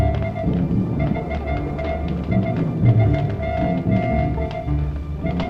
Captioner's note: electronic beeping